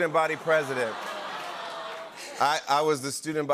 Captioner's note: audience aws